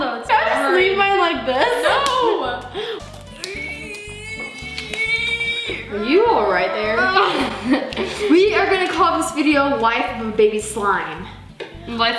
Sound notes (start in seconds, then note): 2.7 groaning